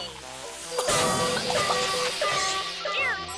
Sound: alarm blaring

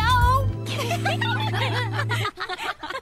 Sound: all laughing

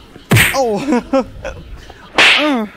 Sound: fist hitting sound; slap sound

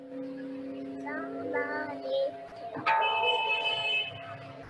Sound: children talking

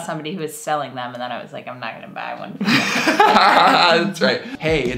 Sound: laughing

